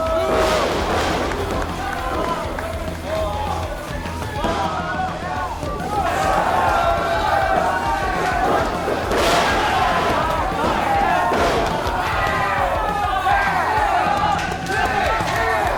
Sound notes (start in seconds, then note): 0.8 Payne slams back loudly against the mat; 4.4 Payne slaps the mat out of frustration